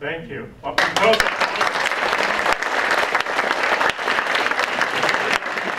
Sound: audience clapping

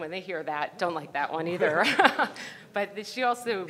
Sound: laughs

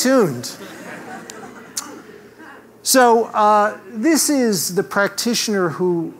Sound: laugh

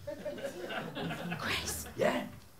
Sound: whispering

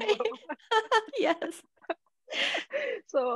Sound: all laughing

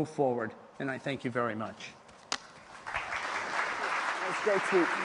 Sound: applause

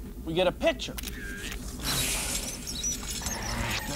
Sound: camera shutter clicks

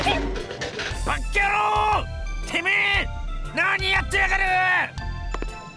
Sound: shout

